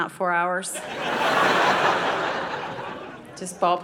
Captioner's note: audience laughing